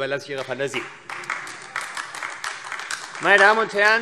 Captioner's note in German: Beifall AfD